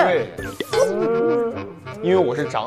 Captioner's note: crying